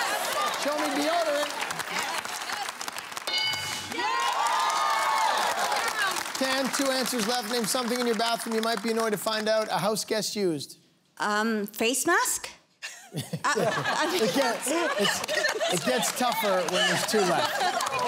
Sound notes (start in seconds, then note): 3.2 bell dings; 4.0 cheers, applause; 12.8 chuckles